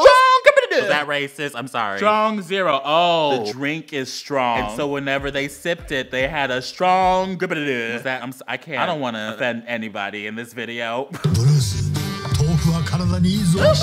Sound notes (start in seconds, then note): 4.6 japanese noise